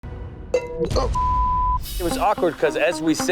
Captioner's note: beep